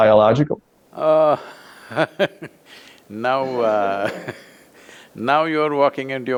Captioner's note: both laugh